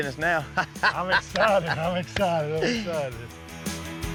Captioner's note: laughs